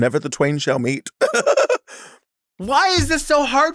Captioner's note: Sapphira laughs